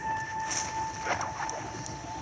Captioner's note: screepy Music; Sounds of Dynamite lights up and throws; sounds of dynamite